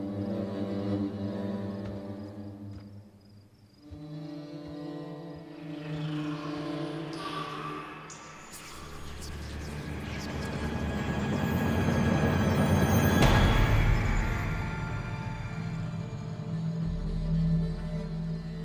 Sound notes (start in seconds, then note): 8.0 dramatic orchestral music; 8.0 ominous whispers